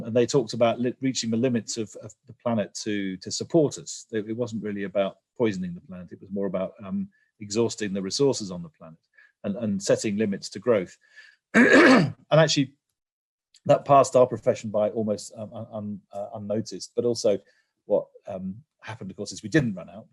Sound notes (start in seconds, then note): 11.5 cough